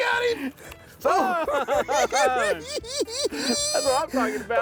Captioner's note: both laughing